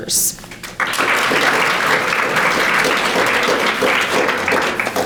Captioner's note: audience applauding